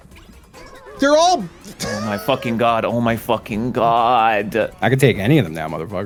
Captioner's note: defeated Wheeze